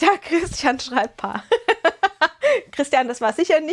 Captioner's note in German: gelächter